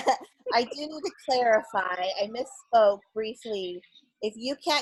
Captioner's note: laugh